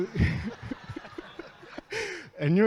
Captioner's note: audience laughs